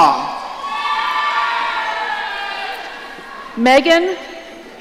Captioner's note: audience cheering